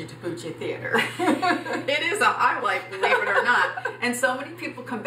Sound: laughs

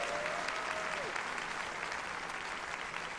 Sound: applause

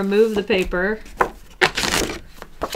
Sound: paper tears off

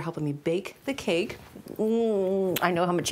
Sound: kissing

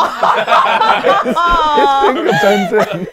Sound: people laughing

